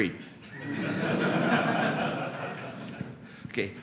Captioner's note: laughter